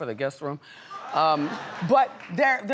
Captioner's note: audience laughs